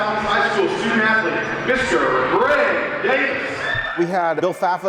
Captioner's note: crowd noise